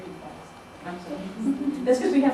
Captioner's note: laughter